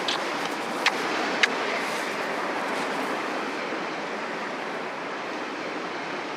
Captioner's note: speaking in Spanish